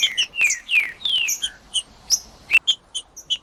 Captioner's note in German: trinca ferro cantando